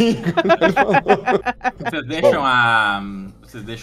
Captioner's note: laughter